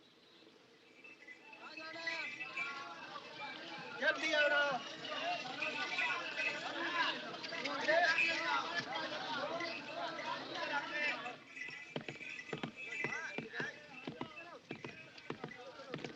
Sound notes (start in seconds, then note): 1.8 men Chattering; 11.5 rain Pattering